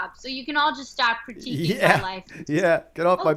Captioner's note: chuckle